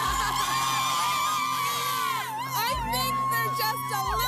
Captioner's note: cheers and Applause